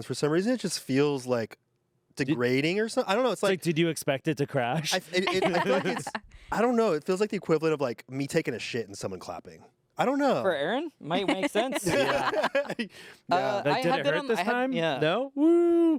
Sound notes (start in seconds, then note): 11.7 everyone laughs